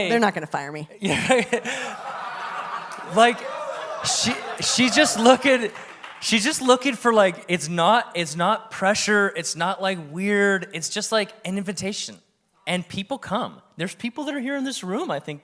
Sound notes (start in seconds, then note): 1.1 everyone laughs